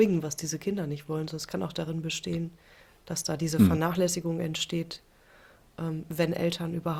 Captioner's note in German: räuspern